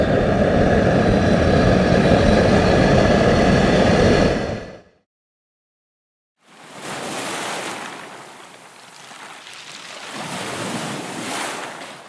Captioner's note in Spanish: Sonido de olas en la playa